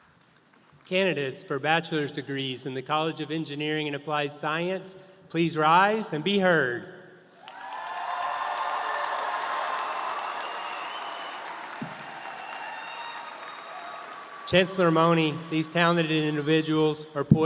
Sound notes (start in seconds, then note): 7.4 audience cheering & applauding